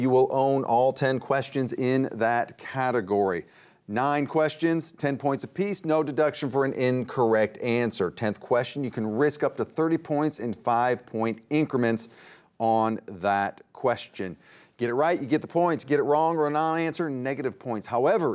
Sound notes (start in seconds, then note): none